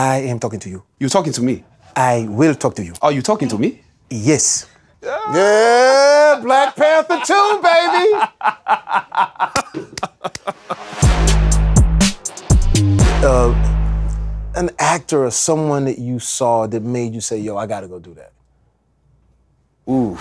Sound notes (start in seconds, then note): 8.2 laughs